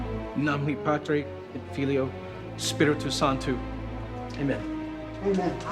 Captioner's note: speaks foreign language